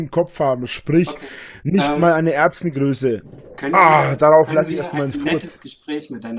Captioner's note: fart